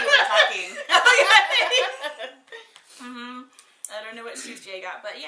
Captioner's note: both laughs